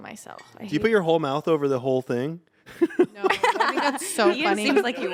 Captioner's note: laughs